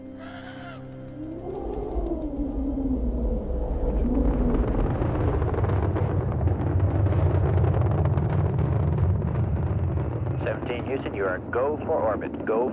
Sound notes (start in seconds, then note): 4.5 engines rumbling